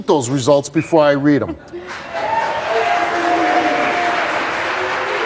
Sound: audience applause

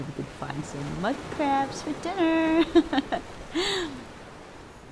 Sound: laughter

